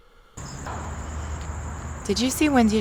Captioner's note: insects chirping